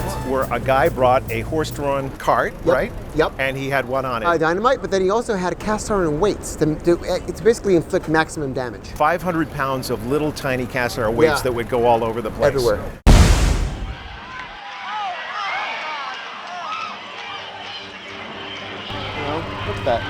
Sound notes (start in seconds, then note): 13.0 explosion sound; 14.8 people screaming in fear